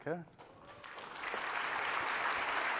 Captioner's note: applause